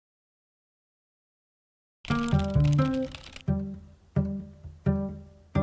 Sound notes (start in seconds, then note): 2.0 typing